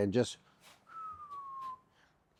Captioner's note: whistles